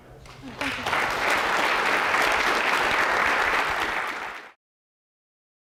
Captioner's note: applause